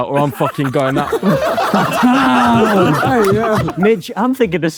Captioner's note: group laughing